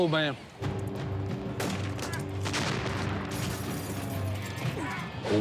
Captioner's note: gunshot and glass breaking on TV